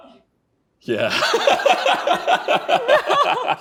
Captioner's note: laughing